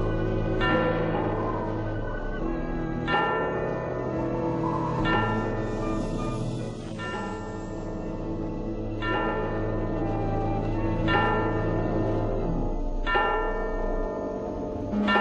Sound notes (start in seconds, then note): 2.5 clock strikes 11